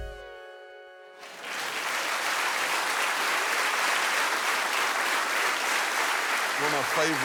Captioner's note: applause